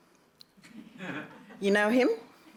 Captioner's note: laughter